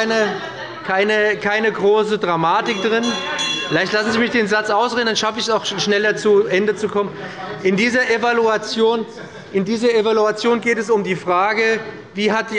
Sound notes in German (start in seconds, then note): 2.4 Unruhe – Glockenzeichen des Präsidenten